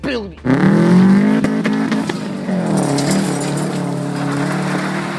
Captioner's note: engine revving